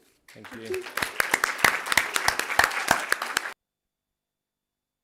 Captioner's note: applause